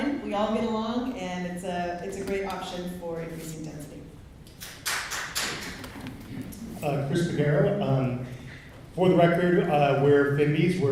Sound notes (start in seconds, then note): 4.6 clapping